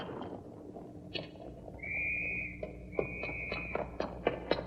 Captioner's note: whistle blowing